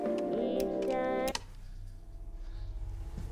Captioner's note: clicks off